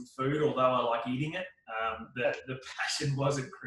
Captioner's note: laughs softly